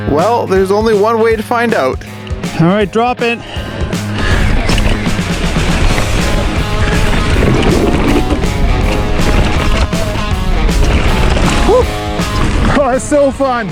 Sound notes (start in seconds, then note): 6.1 bike tires on the trail; 10.4 upbeat music